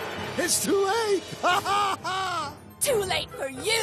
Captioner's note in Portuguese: Risos